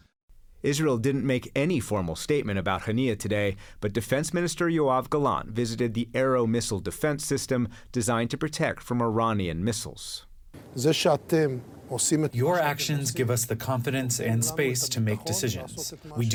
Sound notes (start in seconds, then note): 13.1 through translator